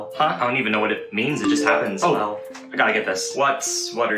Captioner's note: text Ringtone